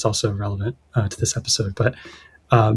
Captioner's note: uh